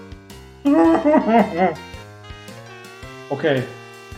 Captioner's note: boo-hooing